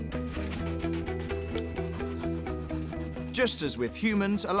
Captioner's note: dogs panting